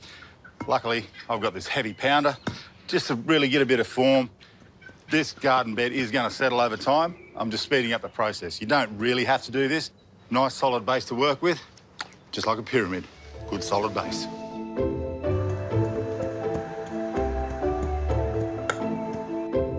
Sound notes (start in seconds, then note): 11.9 clicks tongue; 14.8 curious music